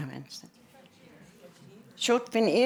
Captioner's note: chatter